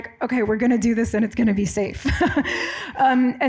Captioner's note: laughs